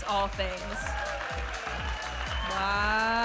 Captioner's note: audience applauding and cheering